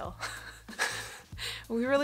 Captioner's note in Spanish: riendo